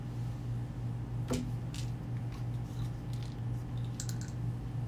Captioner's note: pills rattling